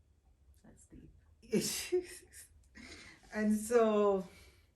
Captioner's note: chuckling